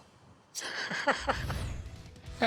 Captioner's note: laughing